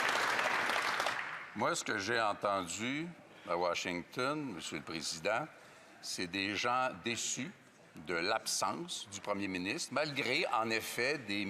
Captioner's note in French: voix de l'interprète